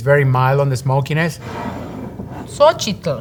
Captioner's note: jar sliding